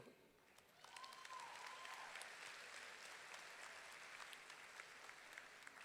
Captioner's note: audience clapping and cheering